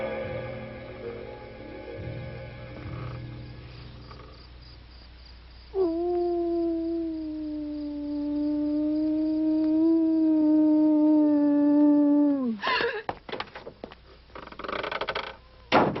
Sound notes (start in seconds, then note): 5.8 wolf howling; 12.9 Priscilla gasps